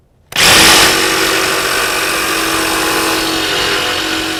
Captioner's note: cutting metal with jigsaw